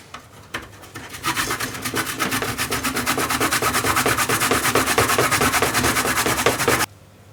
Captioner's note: grate, grate, grate